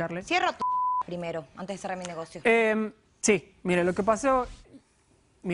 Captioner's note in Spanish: Bip